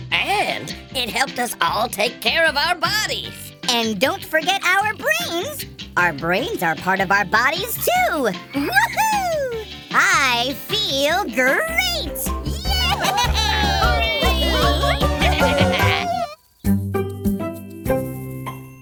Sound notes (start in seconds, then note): 12.6 cheers